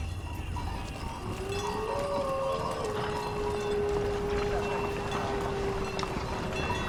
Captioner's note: night noises